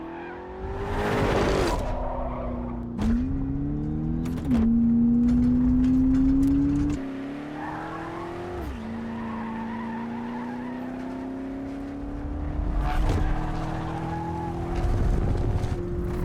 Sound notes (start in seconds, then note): 0.0 engines revving; 0.3 wheels squealing; 3.2 engines revving; 7.1 engines revving; 8.5 wheels squealing; 13.3 engines revving